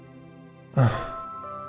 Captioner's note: Lukas sighs